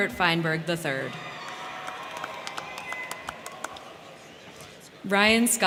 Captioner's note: crowd cheering; crowd clapping